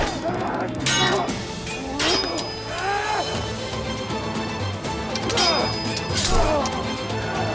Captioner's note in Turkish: Dövüş sesleri